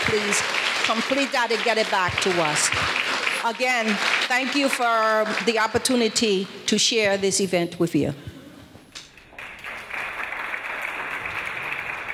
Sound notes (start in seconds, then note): 9.2 audience applause